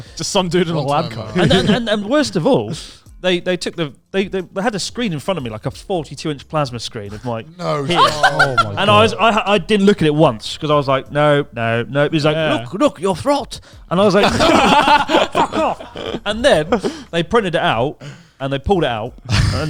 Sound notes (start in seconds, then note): 7.6 laughs; 14.1 all laughing